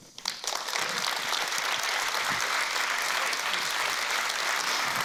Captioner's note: audience applause